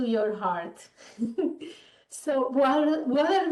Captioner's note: chuckling